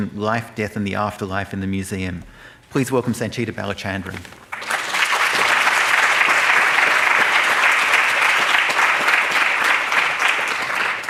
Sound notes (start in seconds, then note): 4.5 audience applauding